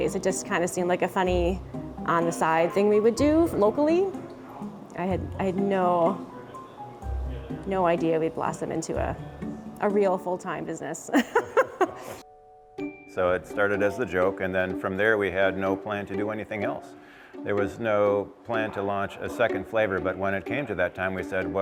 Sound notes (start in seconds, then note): 11.1 laughs